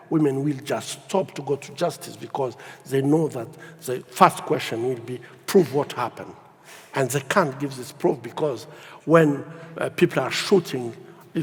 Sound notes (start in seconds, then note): none